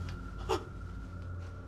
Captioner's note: gasping